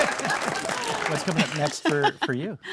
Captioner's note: audience laughing